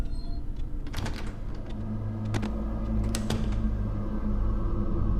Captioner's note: door thuds